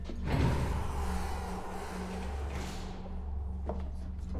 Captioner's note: elevator door whirring